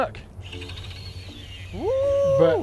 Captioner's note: line whooshing